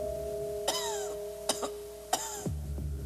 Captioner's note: coughing